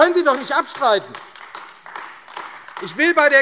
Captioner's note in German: Beifall AfD